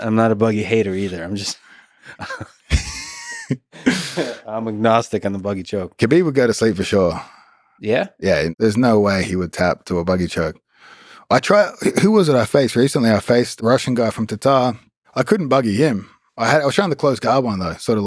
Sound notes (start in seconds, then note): 2.0 both laughing